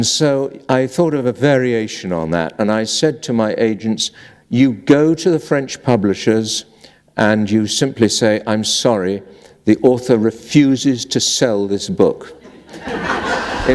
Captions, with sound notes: so, I thought of a variation on that. And I said to my agent, "You go to the French publishers and you simply say, 'I'm sorry the author refuses to sell this book [laughter]